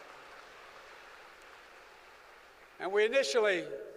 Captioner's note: applause